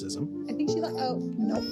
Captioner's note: baby crying